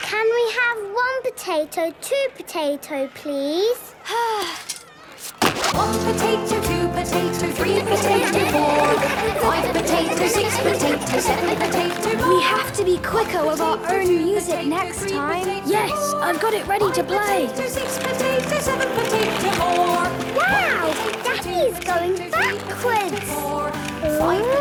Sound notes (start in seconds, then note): 4.1 Belinda sighing; 7.6 laughter